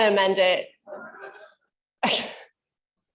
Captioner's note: laughter